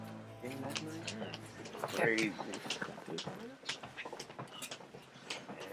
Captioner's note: indistinct chatter